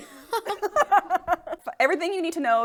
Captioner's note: all chuckle